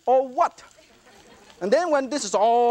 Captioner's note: audience laughter